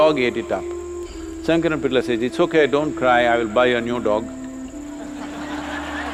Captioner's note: laughter